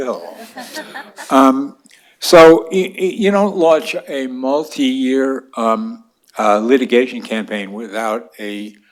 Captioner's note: laughter